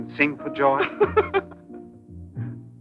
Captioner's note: laughing